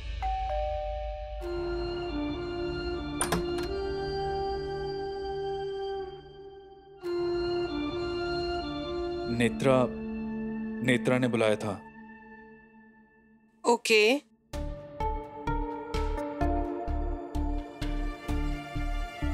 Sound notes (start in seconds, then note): 0.2 doorbell rings; 3.1 door opens; 16.3 pensive music playing